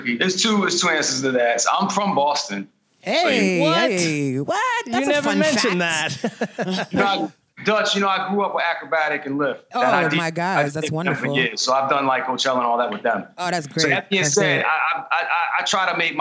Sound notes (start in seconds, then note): 5.0 laughter